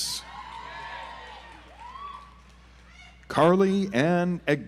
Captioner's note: audience applauds